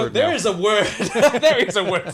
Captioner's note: laughter